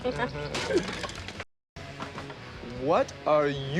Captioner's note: something drops